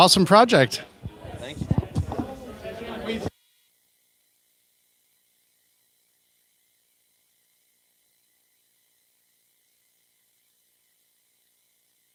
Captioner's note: no audio